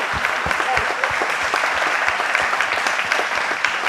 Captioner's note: applause